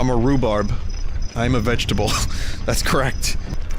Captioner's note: laughs